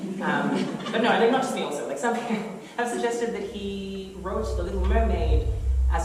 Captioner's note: chuckles